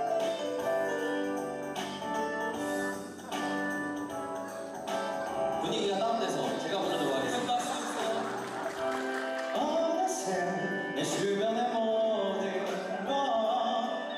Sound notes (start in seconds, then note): 7.2 hahahahahahaha